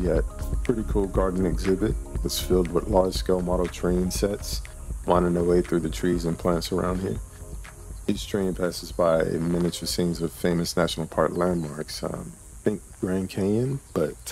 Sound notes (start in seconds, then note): 7.7 birds chirping; 7.9 cicadas buzzing